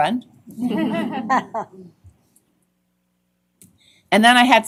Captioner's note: laughter